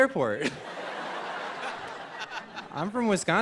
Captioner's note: laughter